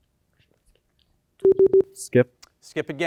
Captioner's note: team whispers; time out beeps